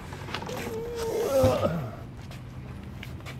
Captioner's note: groans